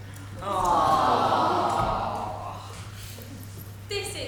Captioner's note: audience awws